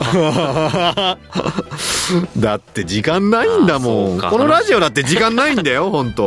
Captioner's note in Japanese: 笑い